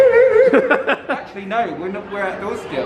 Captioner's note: laughing